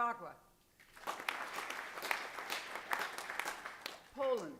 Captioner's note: applause